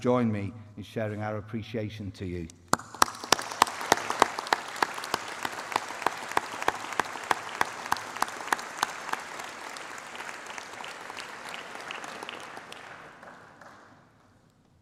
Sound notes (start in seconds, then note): 2.7 applause